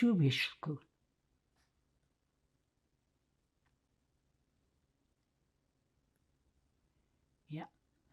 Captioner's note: pauses 6 seconds